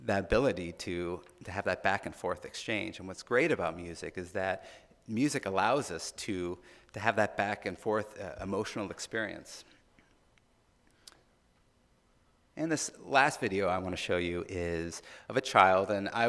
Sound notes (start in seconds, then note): none